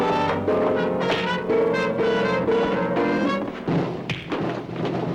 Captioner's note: bodies rumbling; fists whacking